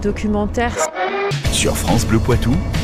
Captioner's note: radio noise